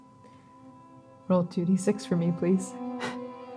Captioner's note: voice breaking; single, soft laugh